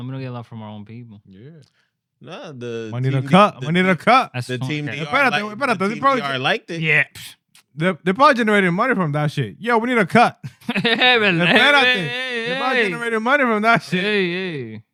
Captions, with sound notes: We don't get a lot from our own people. Yeah. We need a cut. We need a cut. The team DR liked it. The team DR liked it. Yeah. The pod generated money from that shit. Yo, we need a cut. (Laughing) Hey, hey, hey, hey. The pod generated money from that shit. Hey, hey, hey.